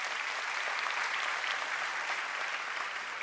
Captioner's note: applause